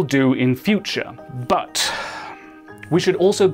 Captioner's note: exhale